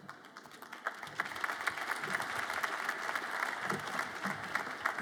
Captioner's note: audience applauds